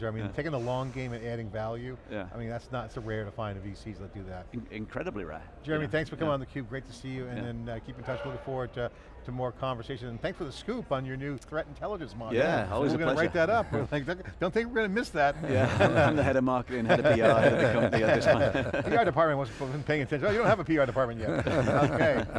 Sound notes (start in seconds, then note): 15.4 laughing; 21.1 laughing